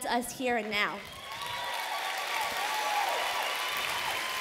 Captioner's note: applause